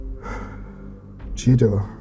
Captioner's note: exhaling